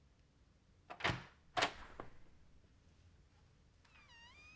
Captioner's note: door opening